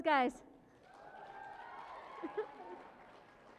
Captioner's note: cheering and applause